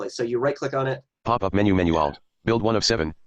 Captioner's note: computer Voice